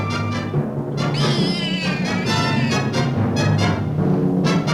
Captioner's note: dramatic music; cat yowling